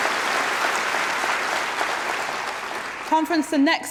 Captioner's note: applause